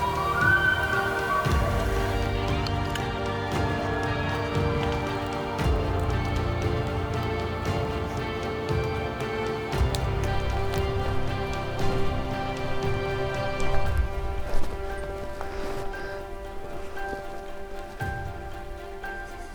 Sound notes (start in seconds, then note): 2.3 caller bugling